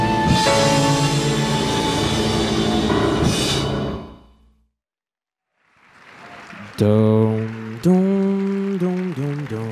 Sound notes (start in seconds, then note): 5.4 audience claps; 6.6 acapella music